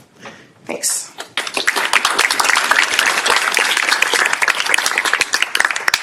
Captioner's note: applause